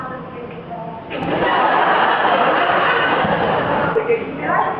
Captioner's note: laughs